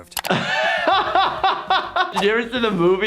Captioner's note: laughs